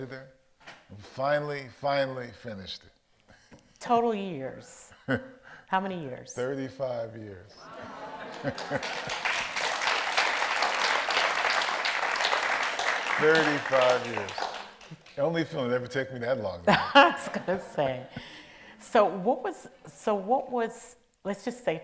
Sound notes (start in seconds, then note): 7.6 audience applauds